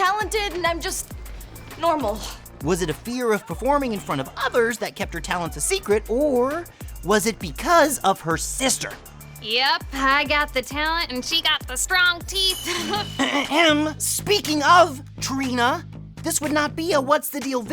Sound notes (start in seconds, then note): 12.7 clearing throat